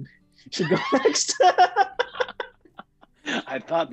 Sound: laughter

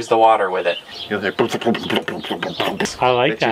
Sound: bubble sounds

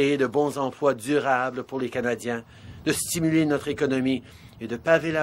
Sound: speaking French

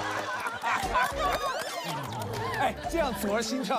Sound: laughing like a man

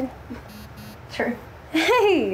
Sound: phone buzzes

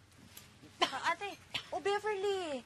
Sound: Beverly coughs

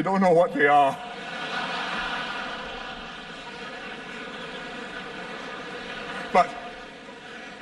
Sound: laughter

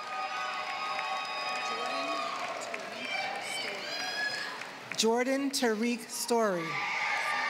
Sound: applause

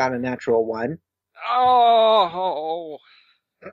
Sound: moan of anguish

